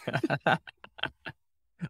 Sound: light laughter

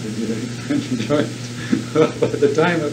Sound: laughs

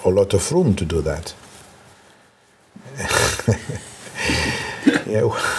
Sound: laughs

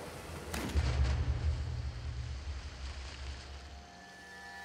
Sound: gunshunshot

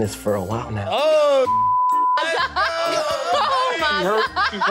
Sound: everyone cursing

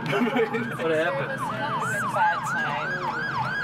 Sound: siren wailing; chattering

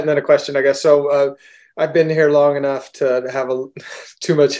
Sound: laughs

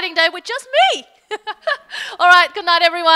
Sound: laughing

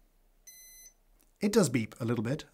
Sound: beep 3

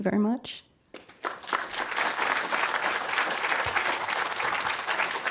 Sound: audience applauding

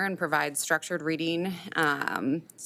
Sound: none

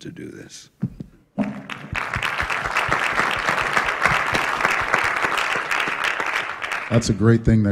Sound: applause

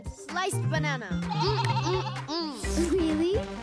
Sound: bleating

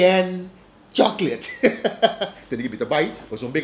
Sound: laughing

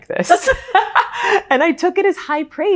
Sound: laughing

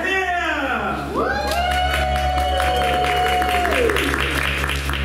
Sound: audience Cheers and Applauds

